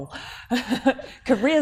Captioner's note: laughing